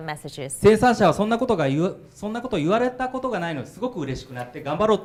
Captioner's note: speaking foreign language